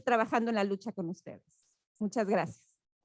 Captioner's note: spanish Language